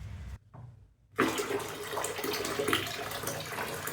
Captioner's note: pouring water